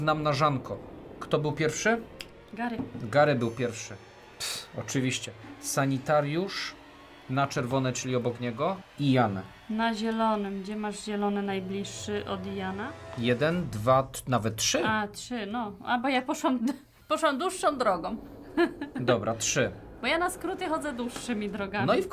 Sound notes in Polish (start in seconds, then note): 16.5 śmiech